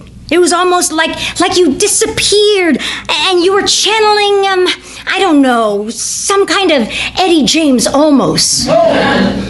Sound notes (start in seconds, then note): 8.6 audience reacts